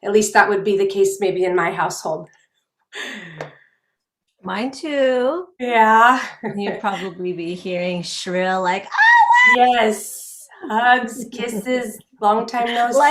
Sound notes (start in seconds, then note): 8.9 shrilling